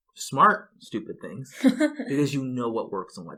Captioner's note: laughs